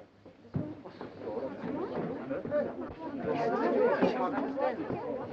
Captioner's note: crowd murmuring